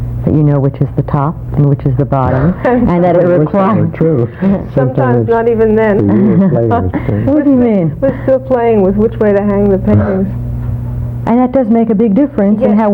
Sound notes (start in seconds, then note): 2.2 laughs